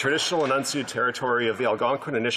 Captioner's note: applause